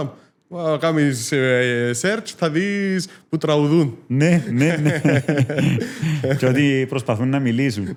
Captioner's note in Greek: γέλια